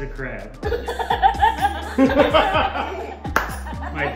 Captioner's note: laughing